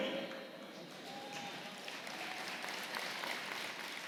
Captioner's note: applause